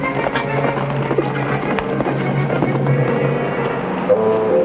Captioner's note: horse cantering; jaunty orchestral music